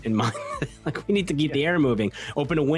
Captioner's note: laughs